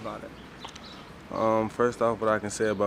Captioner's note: birds chirping